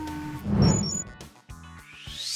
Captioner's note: beeping; dramatic woosh